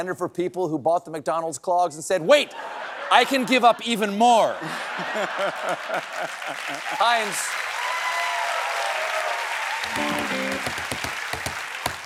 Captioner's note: applause